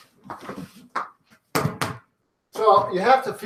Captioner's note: ball slapping